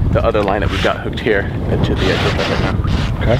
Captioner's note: speaks faintly